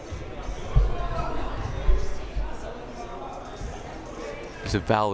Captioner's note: crowd murmuring